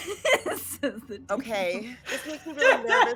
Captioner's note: laughs